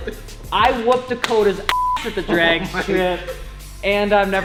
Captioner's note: beep